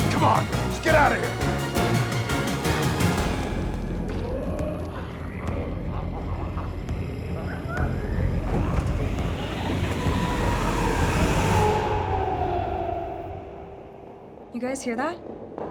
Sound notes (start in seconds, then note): 0.2 dramatic music continues; 4.7 Smelly growling; 12.0 dramatic music